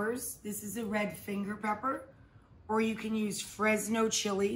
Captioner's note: none